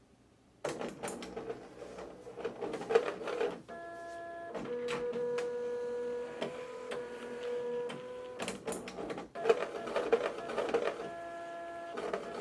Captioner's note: unhappy Printer Noises